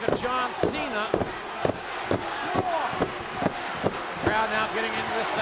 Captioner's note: wrestlers tapping mat